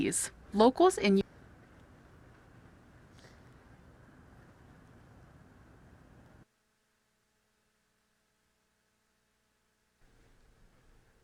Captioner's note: silence